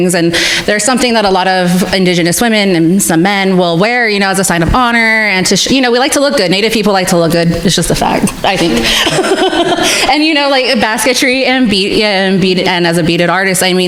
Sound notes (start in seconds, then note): 8.1 laughs